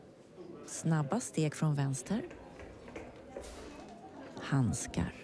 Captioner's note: quick steps from the left